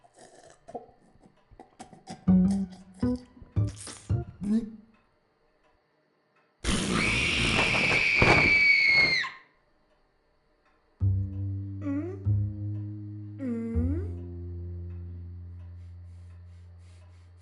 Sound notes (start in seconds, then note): 6.7 screams